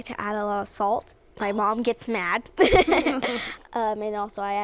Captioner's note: both laugh